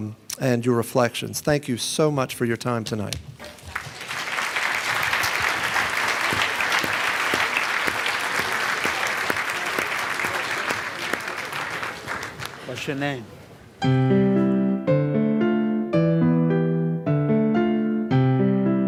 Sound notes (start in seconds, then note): 3.4 applause; 13.8 closing music